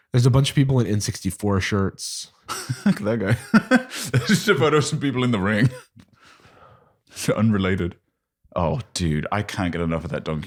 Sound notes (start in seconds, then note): 2.5 laughs